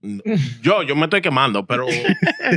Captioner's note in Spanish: Hablando en idioma extranjero